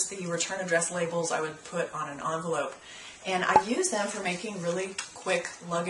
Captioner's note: pop